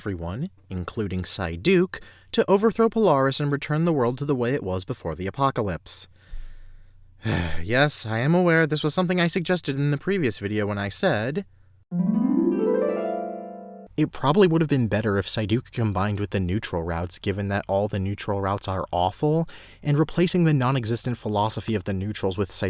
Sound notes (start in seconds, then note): 7.2 sigh